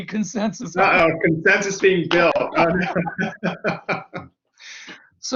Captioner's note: laughs